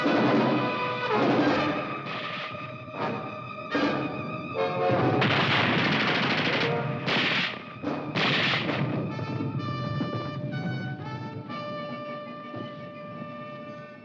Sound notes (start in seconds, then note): 5.2 grenade exploding; 9.4 slow triumphant music